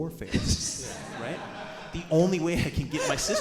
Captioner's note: audience and hosts laughing